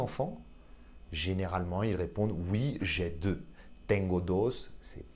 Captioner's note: Spanish